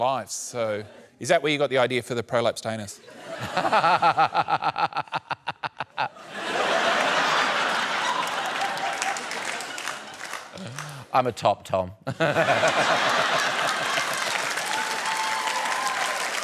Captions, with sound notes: So is that where you got the idea for the prolapsed anus? (LAUGHS) (LAUGHTER) I'm a top, Tom. (LAUGHS) (CHEERING AND APPLAUSE)